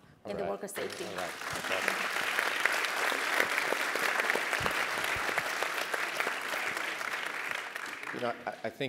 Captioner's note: applause